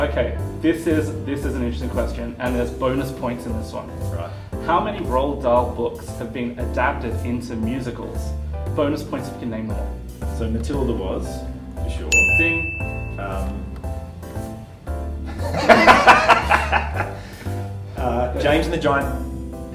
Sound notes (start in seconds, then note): 12.1 ding!; 15.2 laughter